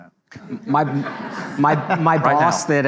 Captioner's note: audience laughs